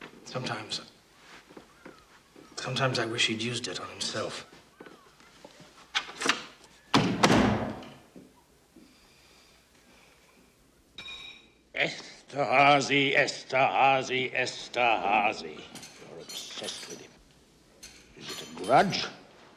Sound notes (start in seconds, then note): 6.9 door closes; 8.8 exhales